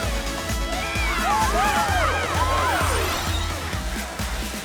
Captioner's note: cheering